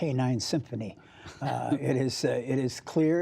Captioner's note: laughter